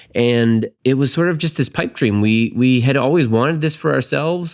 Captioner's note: none